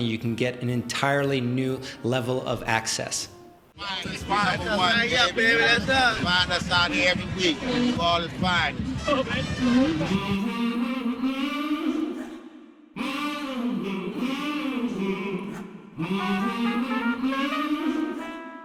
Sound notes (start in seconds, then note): 3.8 group of men chattering; 10.4 upbeat music